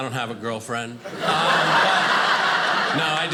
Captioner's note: audience laughing